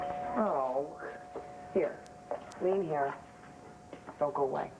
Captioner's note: doorbell rings